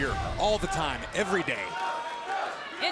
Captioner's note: crowd cheering